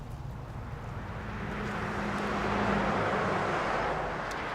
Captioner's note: cars whirring